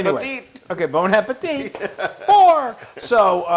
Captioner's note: laugh